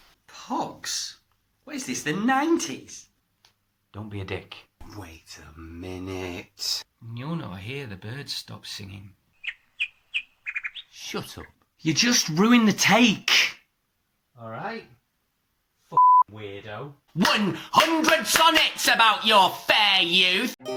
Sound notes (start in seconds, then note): 9.3 birdsong